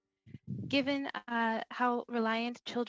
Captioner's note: speaking French